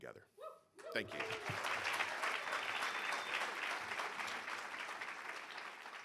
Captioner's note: audience applauding